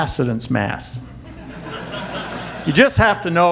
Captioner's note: audience laughter